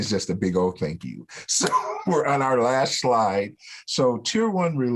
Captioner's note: laughter